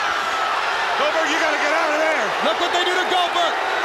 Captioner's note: crowd cheering